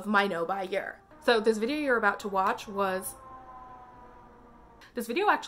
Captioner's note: siren sounds